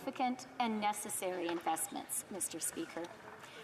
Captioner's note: applause